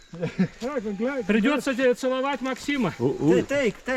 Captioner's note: group chattering